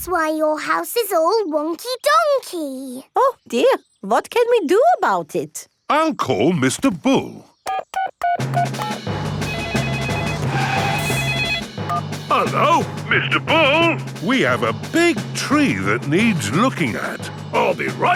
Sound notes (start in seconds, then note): 9.4 beeping; 9.4 phone ringing